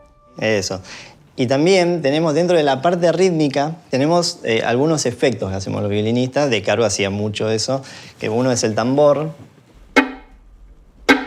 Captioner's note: speaks Spanish